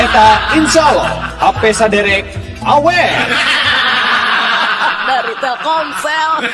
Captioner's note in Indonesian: tertawa